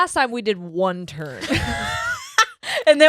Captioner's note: laughing